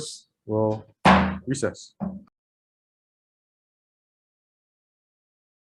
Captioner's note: striking the gavel